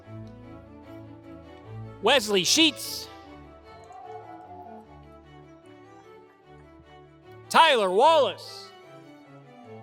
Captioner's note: applause